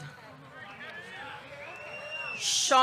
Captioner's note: audience cheering